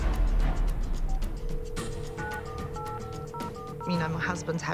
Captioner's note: phone ringtone beeping; phone buttons chiming